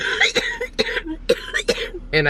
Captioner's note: coughing